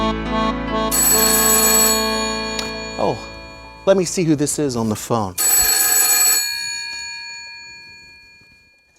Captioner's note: phone rings